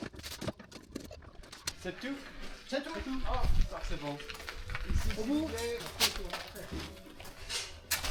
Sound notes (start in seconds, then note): 3.0 speaking in foreign language; 3.3 machinery whirring